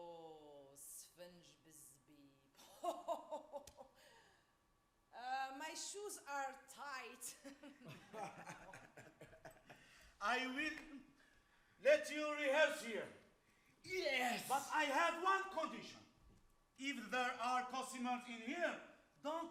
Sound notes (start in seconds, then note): 0.2 woman speaks Arabic; 7.7 men laugh